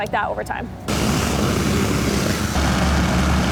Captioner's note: whooshing sounds